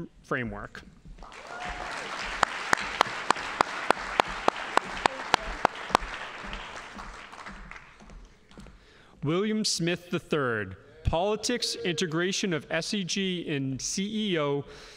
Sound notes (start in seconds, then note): 1.2 audience applauding